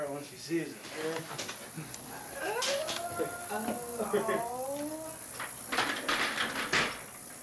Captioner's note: excitement noises